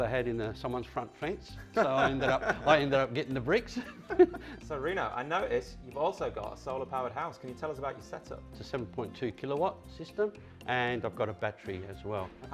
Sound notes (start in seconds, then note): 1.7 laughs; 3.7 both laughing